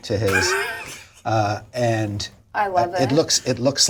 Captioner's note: laughs